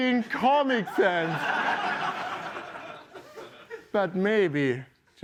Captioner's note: laughter